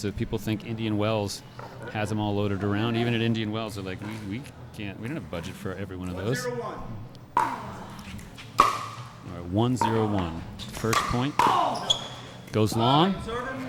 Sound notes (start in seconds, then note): 8.5 ball being smacked